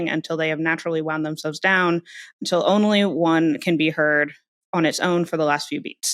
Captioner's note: none